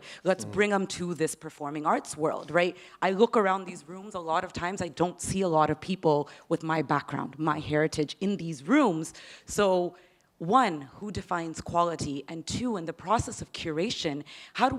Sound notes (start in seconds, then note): none